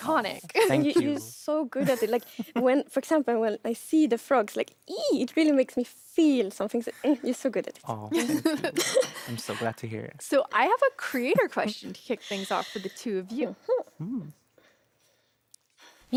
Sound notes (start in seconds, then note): 4.9 squeals; 7.9 interviewer and giggles